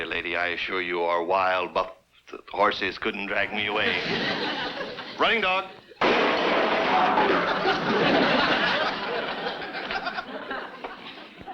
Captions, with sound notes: I assure you, or wild buf-horses couldn't drag me away. (audience laughs) Running Dog. (objects clanging) (audience laughs)